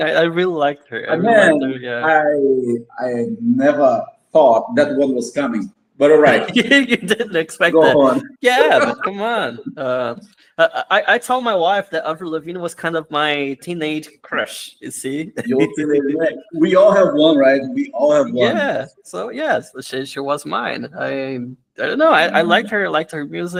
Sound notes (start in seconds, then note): 7.6 laughs; 15.3 laughs